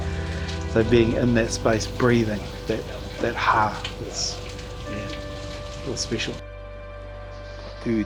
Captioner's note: breath